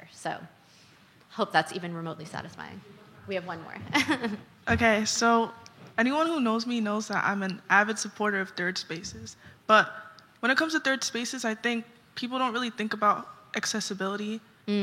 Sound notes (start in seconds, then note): 3.9 chuckles